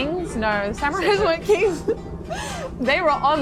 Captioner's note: laughs